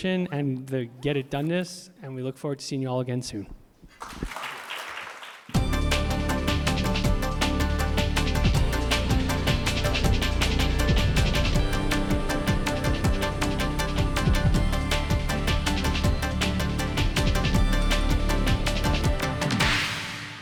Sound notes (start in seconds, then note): 3.9 audience clapping; 5.6 upbeat music